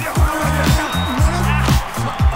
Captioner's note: crowd cheers